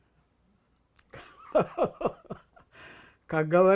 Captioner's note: laughing